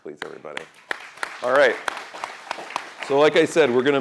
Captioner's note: applause